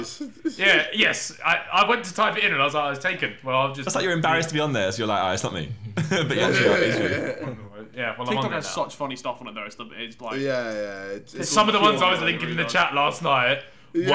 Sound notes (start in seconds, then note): 5.9 laughing